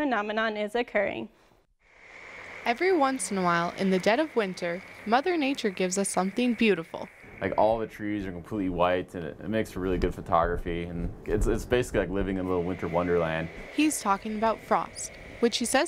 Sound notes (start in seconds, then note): 2.2 voiceover; 14.0 voiceover